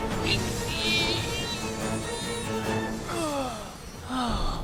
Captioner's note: percy strains